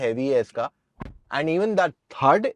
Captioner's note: door thud